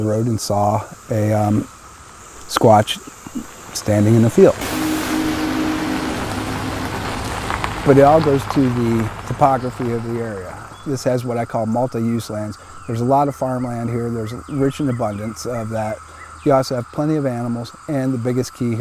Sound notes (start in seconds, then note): 4.6 tense music; 7.1 gravel crunching